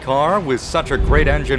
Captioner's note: car horn